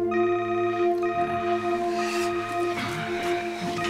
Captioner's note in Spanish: Suena el celular